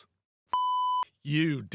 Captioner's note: beep